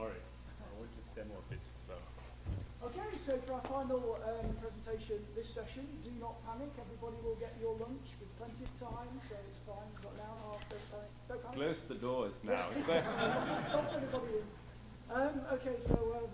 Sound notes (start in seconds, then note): 12.7 laughs